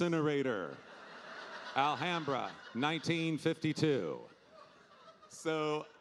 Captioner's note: audience laughing